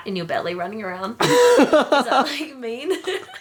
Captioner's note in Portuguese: rindo